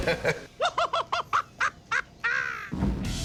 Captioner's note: Joker laugh box cackle; laughs